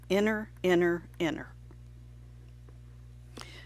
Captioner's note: silent